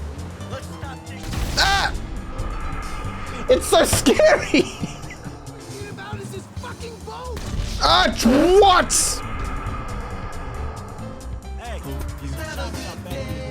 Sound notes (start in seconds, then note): 1.4 screams